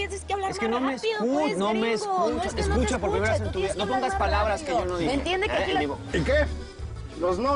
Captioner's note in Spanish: Hablan al unísono